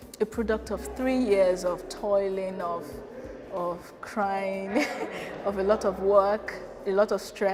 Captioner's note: chuckles